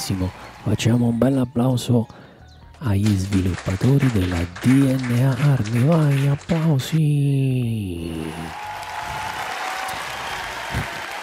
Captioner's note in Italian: Applauso